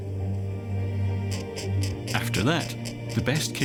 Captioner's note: chick squeaking